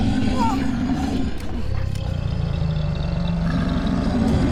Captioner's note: creature roaring